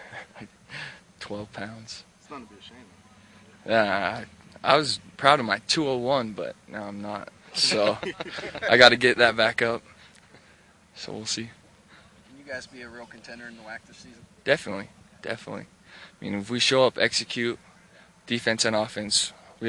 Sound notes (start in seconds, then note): 0.2 laughs sheepishly; 7.5 laughter